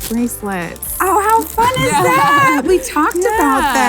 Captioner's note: laugh